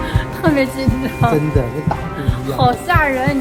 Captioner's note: heartbeat